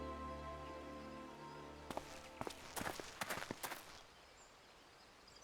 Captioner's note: footsteps